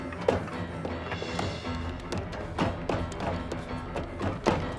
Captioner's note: dramatic music; feet pounding